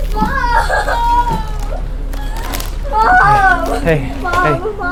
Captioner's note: crying